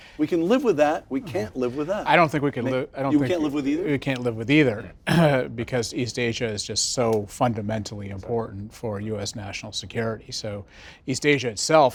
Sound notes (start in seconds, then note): 5.0 cough